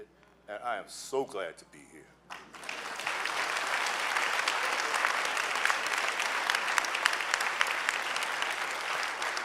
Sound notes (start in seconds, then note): 2.3 clapping